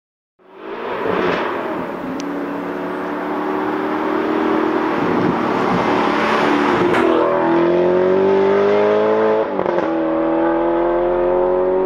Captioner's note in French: Sound & Acceleration